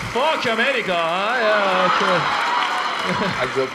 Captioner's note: laughter